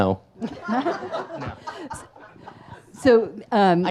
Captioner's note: audience laughs